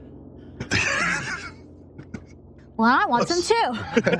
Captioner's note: chuckles